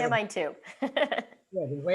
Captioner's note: laughter